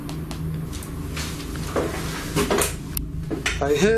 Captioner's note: soft tapping